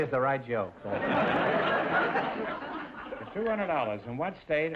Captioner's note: audience laughter